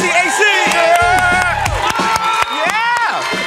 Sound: cheering

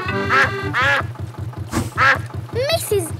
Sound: quacking

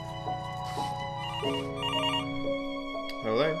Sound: phone rings

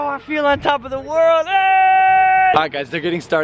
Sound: yells

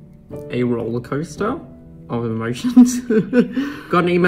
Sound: laughing

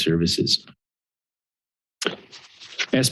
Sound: pause

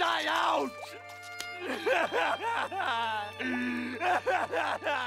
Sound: sobbing

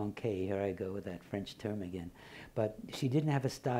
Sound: foreign language

